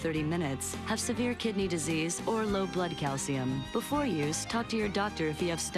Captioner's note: none